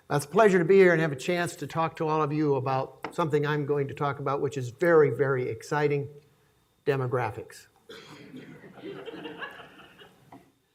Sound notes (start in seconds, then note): 8.5 laughing